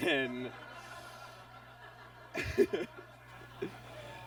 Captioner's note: audience laughs; laughs